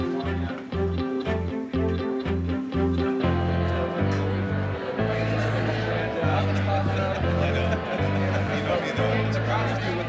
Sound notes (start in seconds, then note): 0.5 people chattering